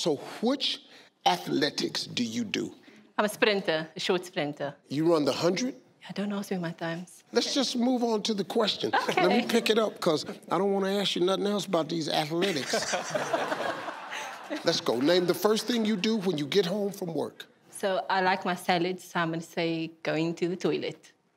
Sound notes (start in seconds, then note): 12.4 audience laugh